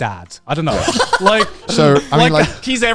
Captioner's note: laughs